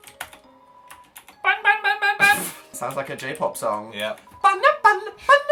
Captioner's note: snorts; high-pitched singing